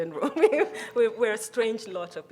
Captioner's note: chuckles